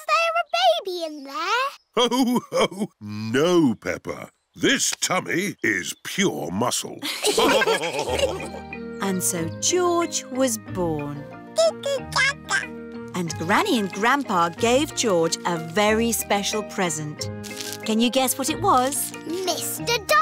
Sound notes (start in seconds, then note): 2.3 laughs; 7.0 all laughing